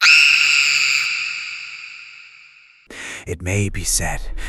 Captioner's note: screaming